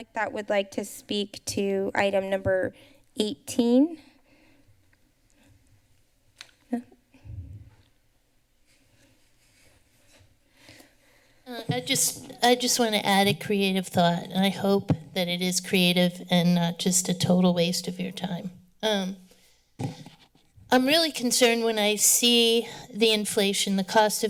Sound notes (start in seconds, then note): 7.2 silence